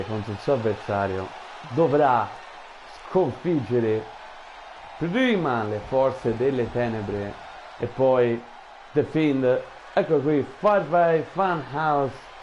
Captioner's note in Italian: Applauso